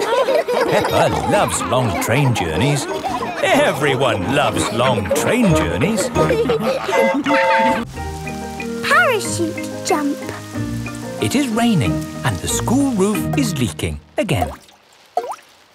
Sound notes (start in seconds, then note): 0.1 laughing; 7.0 train whistle toots